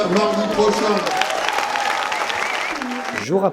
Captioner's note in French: applaudissements